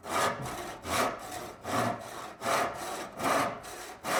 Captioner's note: saw rasping